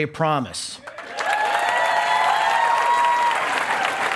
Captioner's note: cheering and applause